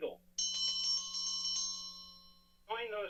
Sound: timer rings

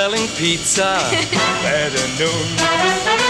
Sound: laughs

